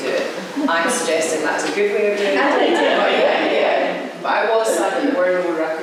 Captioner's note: laughter